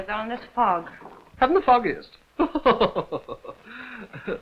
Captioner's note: laughs